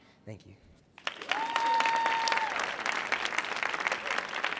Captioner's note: audience cheering